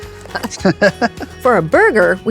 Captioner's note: both chuckle